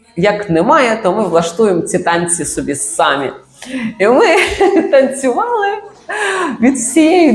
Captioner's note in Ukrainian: сміх